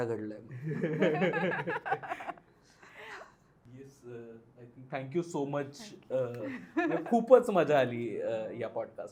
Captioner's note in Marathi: हास्य